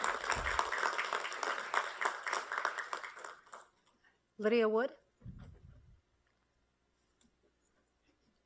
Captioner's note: applause